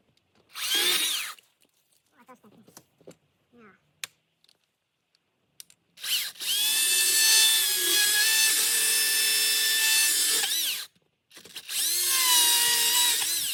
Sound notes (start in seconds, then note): 0.5 sounds of sawing; 6.5 sounds of sawing